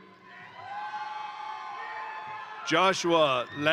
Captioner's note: crowd cheering; crowd applauding